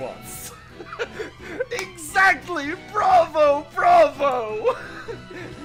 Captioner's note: excited